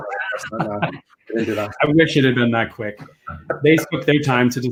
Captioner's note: laughs; laughing